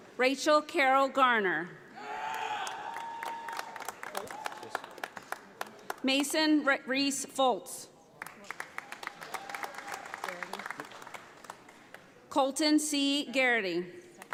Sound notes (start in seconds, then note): 2.6 audience applauding; 8.2 audience applauding